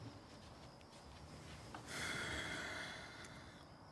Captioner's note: sighs